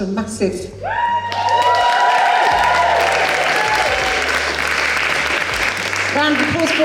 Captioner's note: audience Applause